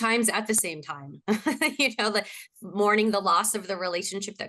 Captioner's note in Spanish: risas